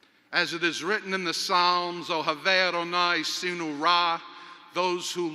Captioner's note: speaks in Hebrew